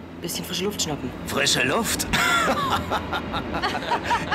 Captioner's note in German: lachen; lacht